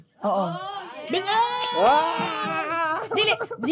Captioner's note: cheering, clapping